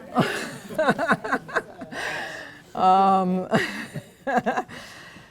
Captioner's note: laughs